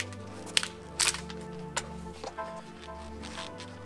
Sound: bark being shaved from the log

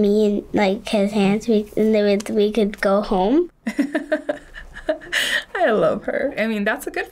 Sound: chuckles

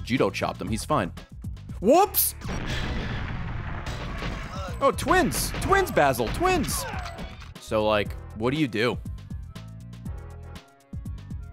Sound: laughs

